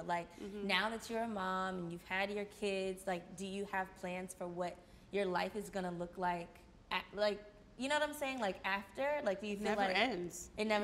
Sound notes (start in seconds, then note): none